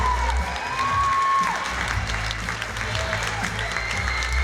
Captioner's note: cheering and applause